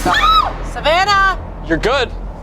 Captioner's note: screams